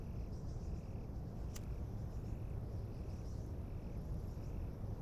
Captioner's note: lighter clicking